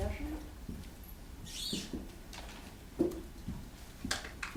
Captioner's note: shuffling and ruffling